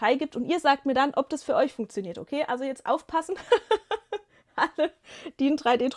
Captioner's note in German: gelächter